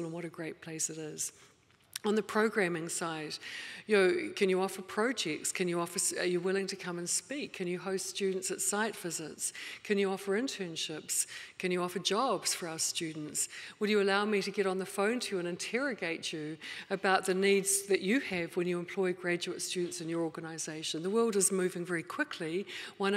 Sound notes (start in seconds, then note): none